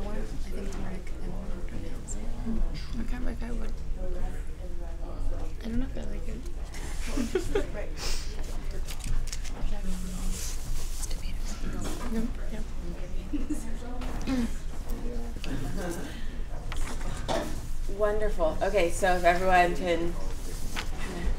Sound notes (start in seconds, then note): 4.2 chatter; 7.0 laughter; 10.6 chatter